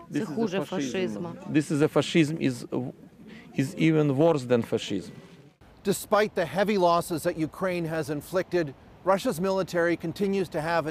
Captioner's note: speaking Foreign Language